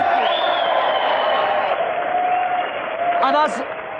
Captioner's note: more audience cheering